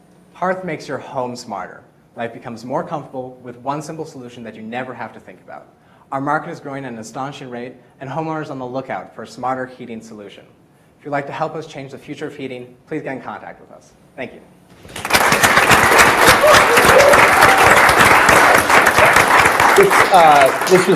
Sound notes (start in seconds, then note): 14.8 audience applauds